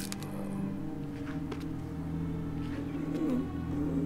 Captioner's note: groaning